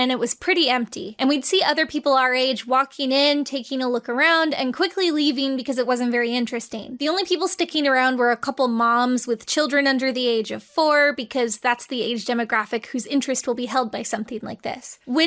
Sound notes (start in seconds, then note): none